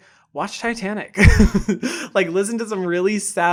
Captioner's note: laughs